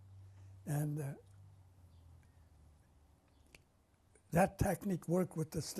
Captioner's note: pauses for 3 seconds